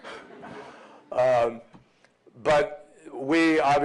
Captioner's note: laughter